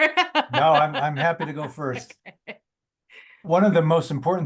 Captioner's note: laughs